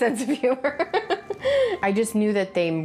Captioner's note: laughs